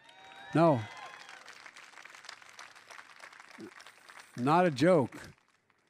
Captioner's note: applause